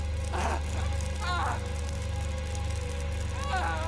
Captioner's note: screams